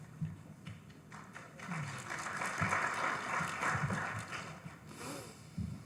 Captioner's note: audience applauding